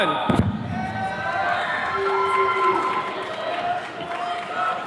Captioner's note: attendees cheering